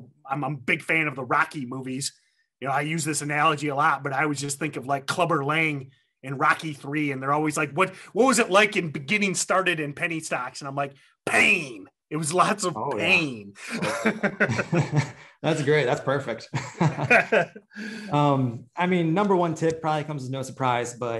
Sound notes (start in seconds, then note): 13.6 both laughing